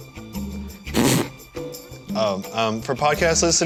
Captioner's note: laughs